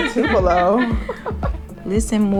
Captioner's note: laughter